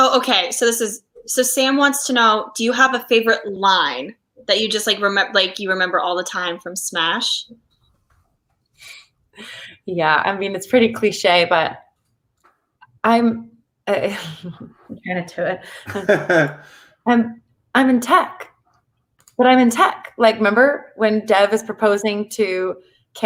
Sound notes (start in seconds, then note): 13.7 laughs